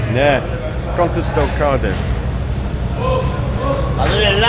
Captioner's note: speaking in foreign language